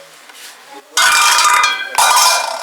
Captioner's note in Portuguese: Barulho alto